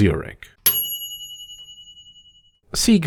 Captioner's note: ding